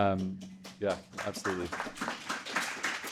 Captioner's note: audience applauding